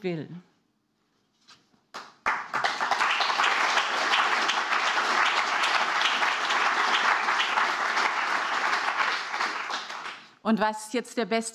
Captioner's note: applause